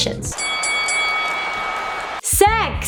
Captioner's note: bell ringing